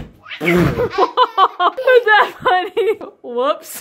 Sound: laughs

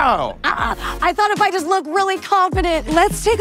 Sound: laughing

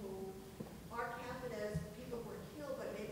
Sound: speaks quietly without mic

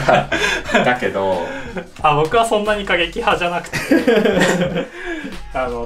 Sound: laughs

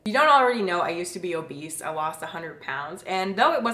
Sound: none

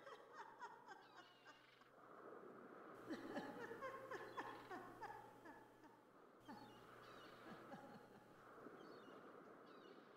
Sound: mermaid laughing

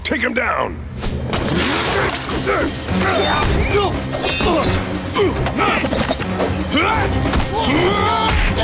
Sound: grunting

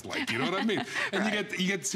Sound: laughter

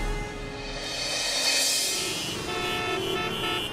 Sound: traffic noises

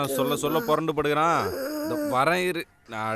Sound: kid moaning

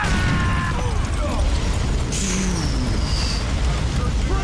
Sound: Niko screams; sighs

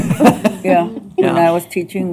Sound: laughter

